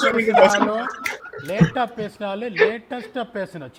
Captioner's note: laughs